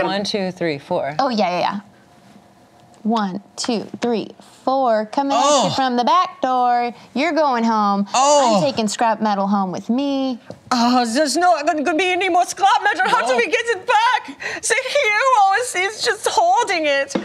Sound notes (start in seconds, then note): 10.8 imitates German accent